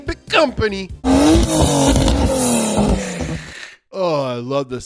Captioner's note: car engine roars